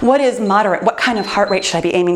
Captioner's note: timer beeps